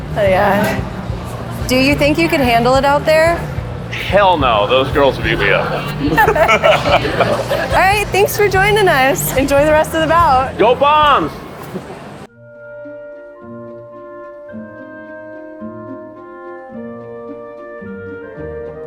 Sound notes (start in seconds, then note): 5.7 both giggling; 11.3 gentle elegant music; 11.6 giggles